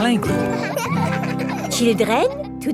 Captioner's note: children laughing